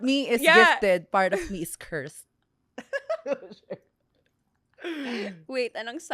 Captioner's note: laughs